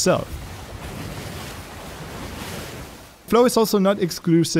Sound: water crashing

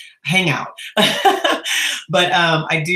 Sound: laughing

